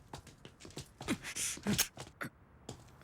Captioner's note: grunts